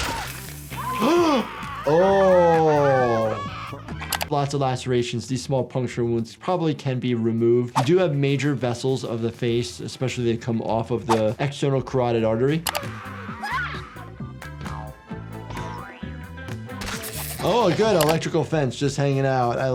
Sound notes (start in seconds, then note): 0.7 doctor gasps; 11.8 funky music